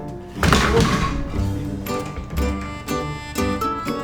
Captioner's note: banging